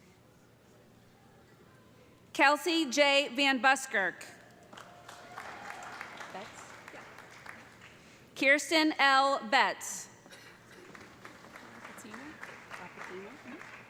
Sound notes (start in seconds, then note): 4.5 applause; 10.7 applause